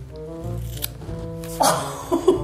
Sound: scissors snipping; laughing

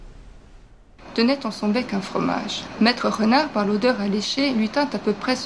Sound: speaking various languages

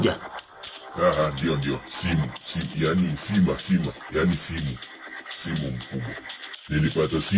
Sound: confused

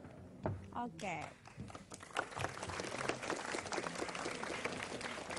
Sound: applause

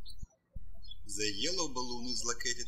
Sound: birds chirping

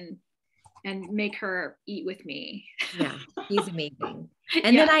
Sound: chuckles

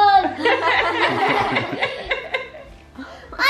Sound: laughs

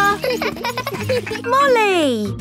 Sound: laughing

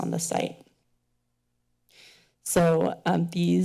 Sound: pause

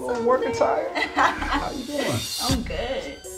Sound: Sydney laughs

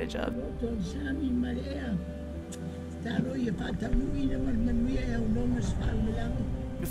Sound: Talia's grandma speaks in foreign language

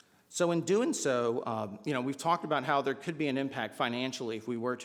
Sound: none

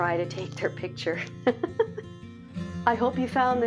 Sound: laughs

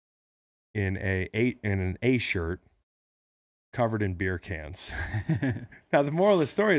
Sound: laughs

